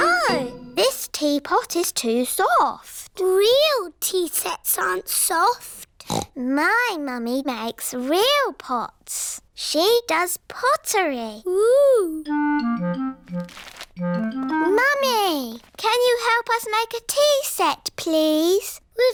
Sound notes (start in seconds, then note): 6.0 snorts